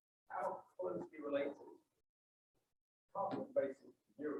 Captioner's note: silence